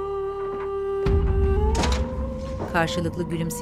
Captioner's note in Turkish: Kapı kapanma sesi; Müzik - Gerilim